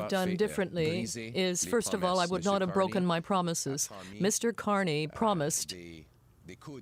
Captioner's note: speaking French